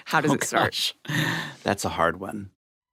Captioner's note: laughs